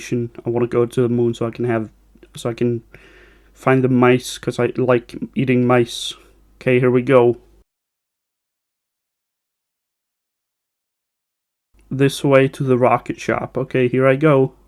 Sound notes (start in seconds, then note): 7.5 super silent walk, I totally didn't forget to add sound here